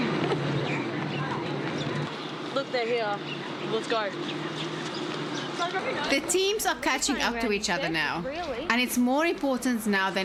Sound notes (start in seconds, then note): 6.1 narrating